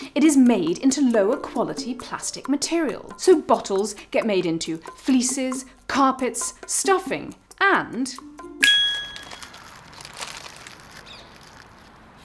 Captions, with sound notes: It is made into lower quality plastic material. So bottles get made into fleeces, carpets, stuffing, and... [snaps] [ding]